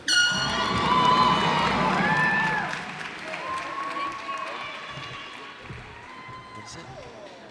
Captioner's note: cheers and applause